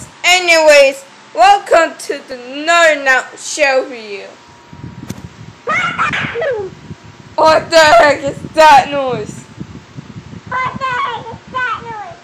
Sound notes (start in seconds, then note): 5.0 slap